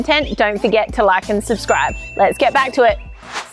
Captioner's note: bell chimes